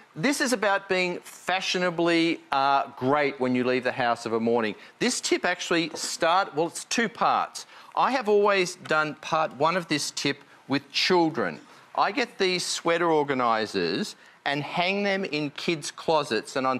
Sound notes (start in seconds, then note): none